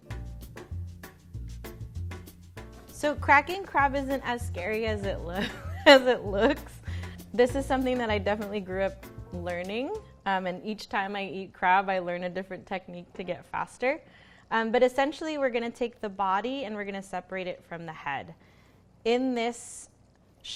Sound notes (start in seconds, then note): 0.0 mellow music; 5.4 laughs